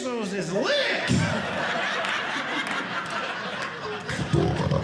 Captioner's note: audience laughing; beat boxing